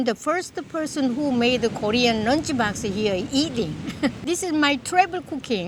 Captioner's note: laughs